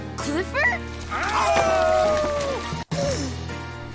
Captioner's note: yelling; howling